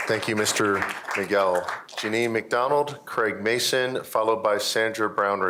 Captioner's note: applause